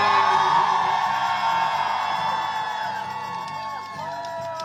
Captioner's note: vocalist vocalizing; crowd cheering